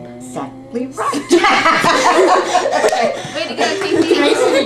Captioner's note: laughter